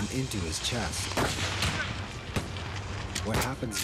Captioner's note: guns firing